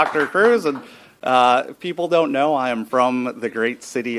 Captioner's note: applause